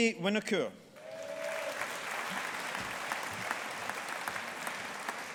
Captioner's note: audience applauding